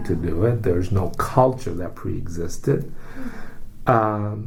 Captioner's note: takes breath